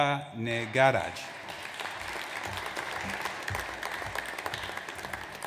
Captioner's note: audience applauds